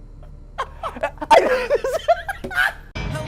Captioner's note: laughs